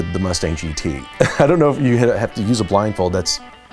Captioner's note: laugh